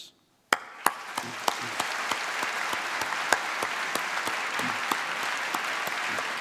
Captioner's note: applause